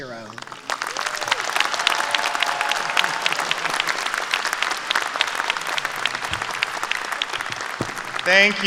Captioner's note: applause